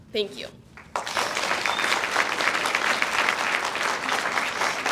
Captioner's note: audience applauds